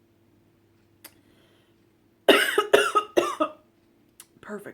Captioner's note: cough cough